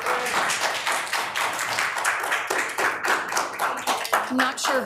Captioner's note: audience claps